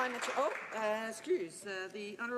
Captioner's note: some Applause